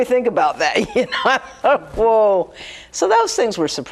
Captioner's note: laughs